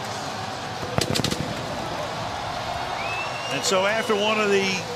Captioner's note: firecrackers bursting